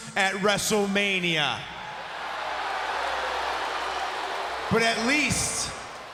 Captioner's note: crowd cheering